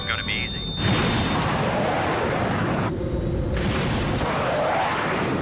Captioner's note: engine whooshing